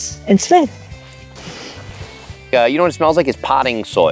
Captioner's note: inhales